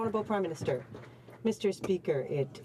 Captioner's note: some Applause